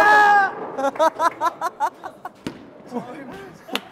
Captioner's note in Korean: 껄껄